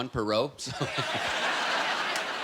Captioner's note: laughter